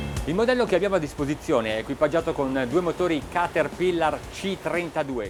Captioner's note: speaking in foreign language